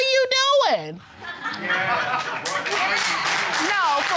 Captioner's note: audience laughing and applauding